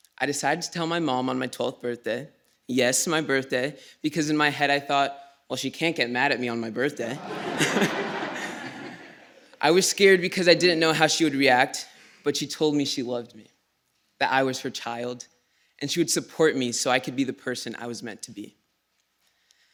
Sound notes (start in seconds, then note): 7.1 laughter